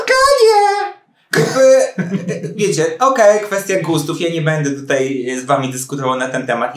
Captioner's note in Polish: śmiech